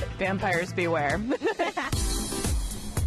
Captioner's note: both laugh